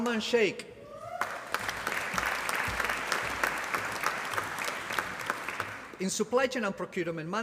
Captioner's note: applause